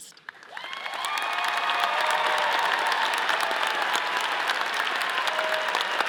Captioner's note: all applauding; all cheering